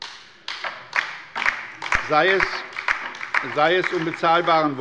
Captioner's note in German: Beifall bei der LINKEN